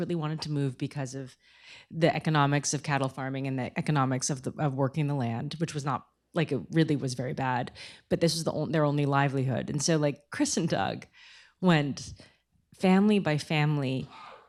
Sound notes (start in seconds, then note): none